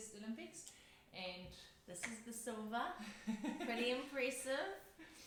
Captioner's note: laughs